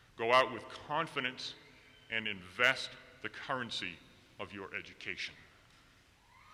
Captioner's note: none